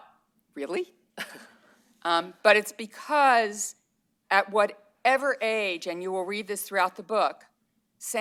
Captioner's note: laughter